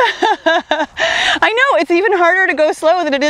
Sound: laughs

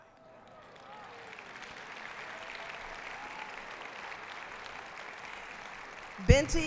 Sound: applause

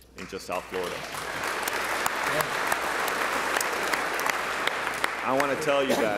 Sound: applause

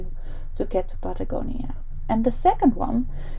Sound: none

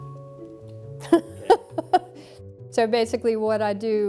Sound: chuckling

